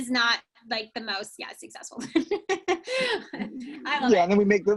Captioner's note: laughs